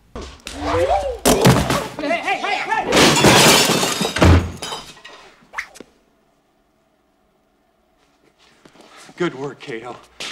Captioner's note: TV fight sounds and crashing set pieces